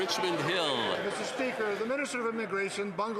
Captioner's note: some Applause